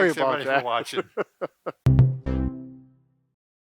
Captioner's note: laughing